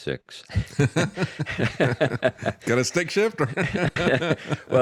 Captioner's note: laughing